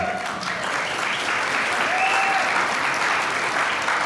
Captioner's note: applause